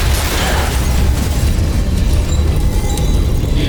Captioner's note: powerful blast-crackle; suspenseful music playing; powerful whoosh-crackle; grunts